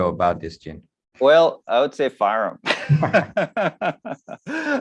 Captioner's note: laughs